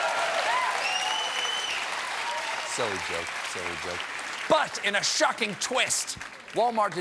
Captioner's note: applause